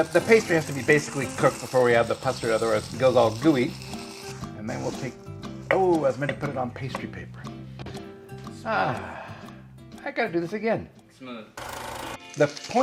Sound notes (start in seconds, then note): 8.6 sighing; 12.2 camera shattering